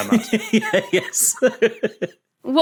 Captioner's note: giggles